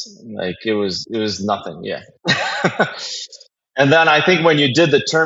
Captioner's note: laugh